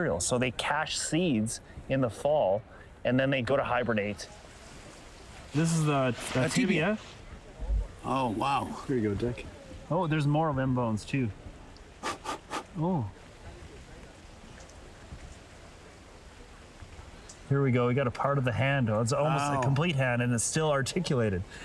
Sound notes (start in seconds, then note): 12.0 blows